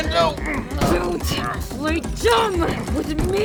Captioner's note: straining